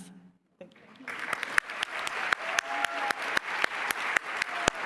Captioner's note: applause